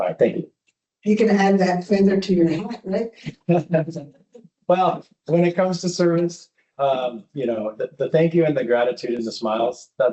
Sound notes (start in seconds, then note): 4.1 laughter